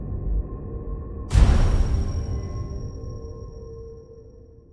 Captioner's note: gun bangs